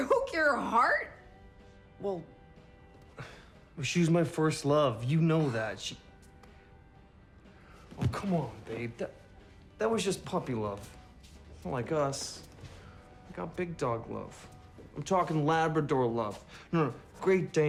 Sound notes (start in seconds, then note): 3.1 sighs